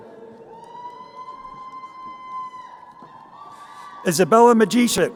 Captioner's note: crowd cheering